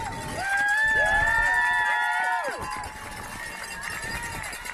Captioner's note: crowd cheering; bell ringing